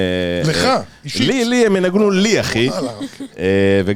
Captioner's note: laugh